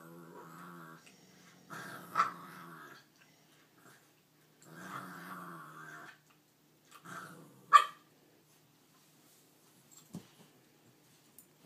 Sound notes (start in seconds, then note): 0.1 growls; 8.2 yips